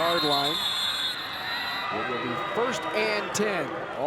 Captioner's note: whistle blows